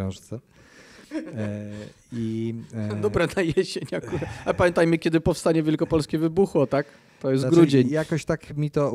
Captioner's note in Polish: śmiech